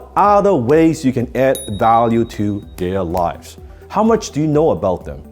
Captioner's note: bell dings